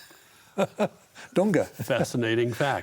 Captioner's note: laughs